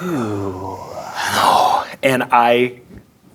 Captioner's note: groaning